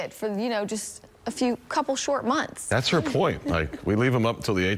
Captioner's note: laughter